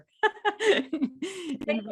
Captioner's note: laughs